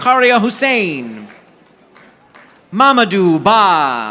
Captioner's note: audience applauding